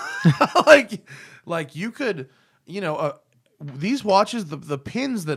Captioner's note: laughter